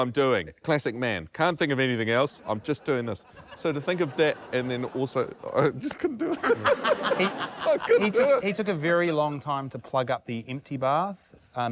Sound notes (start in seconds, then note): 6.4 laughs; 6.8 laughter